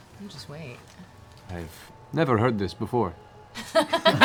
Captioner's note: deadpan; laughter